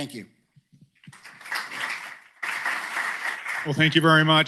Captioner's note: applause